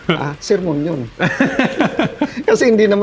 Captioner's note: laughs